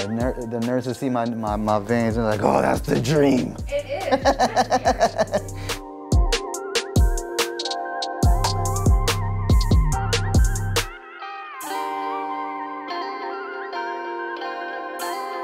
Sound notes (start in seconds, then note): 3.6 laughs happily; 6.3 upbeat music